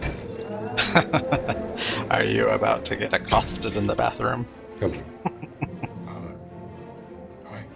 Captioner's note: laughing